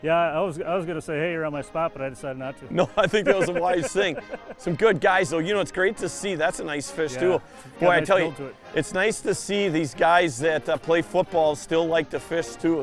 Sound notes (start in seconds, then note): 2.8 laughs